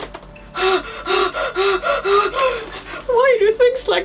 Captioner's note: anxious breathing